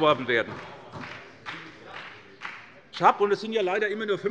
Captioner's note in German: Beifall bei Abgeordneten der SPD